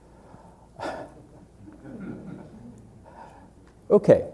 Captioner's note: laughter